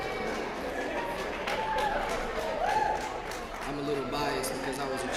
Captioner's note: applause